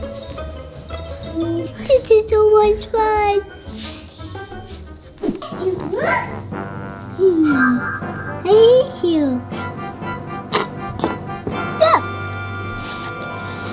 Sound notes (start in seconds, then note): 5.7 marching music; 7.4 magic sounds; 10.5 eating sound